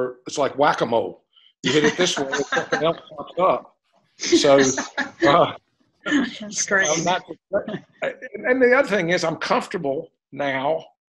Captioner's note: laughter